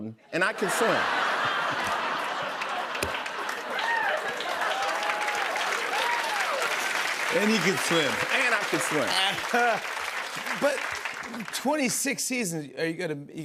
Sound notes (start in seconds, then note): 0.5 laughter; 4.2 cheers and applause